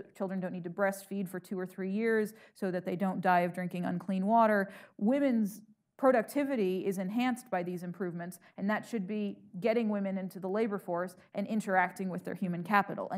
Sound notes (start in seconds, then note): none